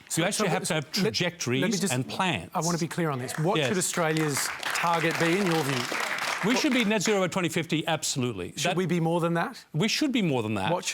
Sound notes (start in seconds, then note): 3.2 applause